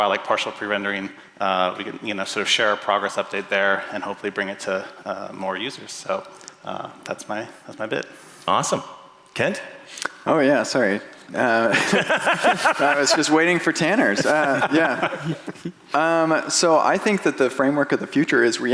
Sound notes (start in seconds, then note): 11.4 laughing